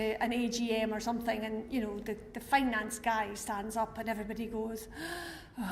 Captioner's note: sigh